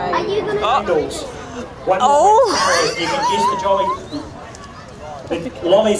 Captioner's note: laughs